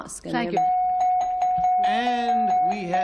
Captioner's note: dings